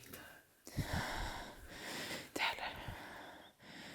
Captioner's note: whispers